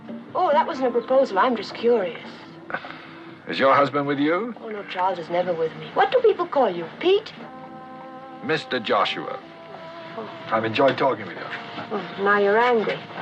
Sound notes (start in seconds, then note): 2.4 sighs